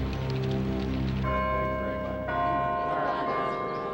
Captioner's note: bell tolling